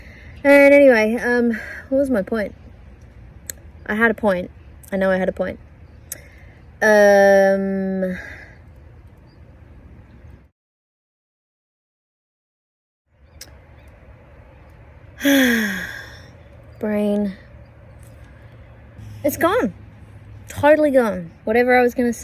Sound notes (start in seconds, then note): 15.2 sighs heavily